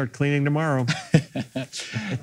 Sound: laughing

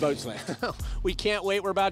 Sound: laughter

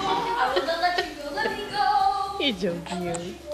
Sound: laughter

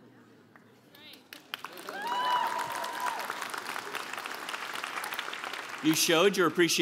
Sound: applause

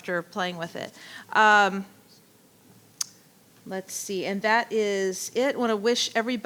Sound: clicks tongue

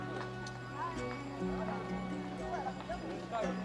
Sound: crowd murmuring

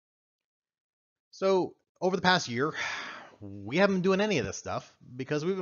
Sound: sighs

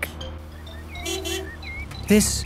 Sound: honking

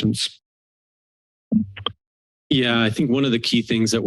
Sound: silence

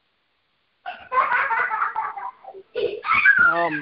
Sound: children laughing

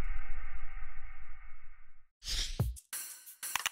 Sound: logo whooshes; mouse clicks; keyboard clacks

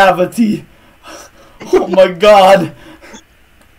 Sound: laughing

